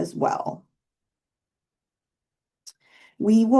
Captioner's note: silence